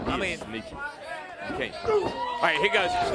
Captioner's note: crowd chatter